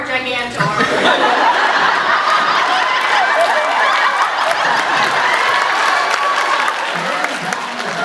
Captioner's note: laughs; laughs, applauds